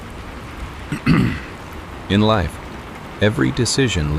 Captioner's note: clearing throat